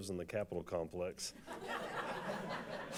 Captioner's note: laughter